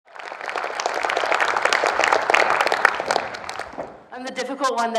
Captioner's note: audience applauds